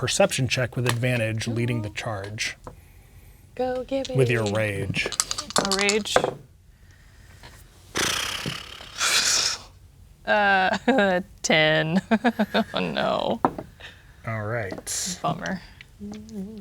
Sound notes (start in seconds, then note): 3.9 dice rattling; 6.2 dice rolling; 7.9 blows raspberry; 11.7 laughing; 11.8 chuckles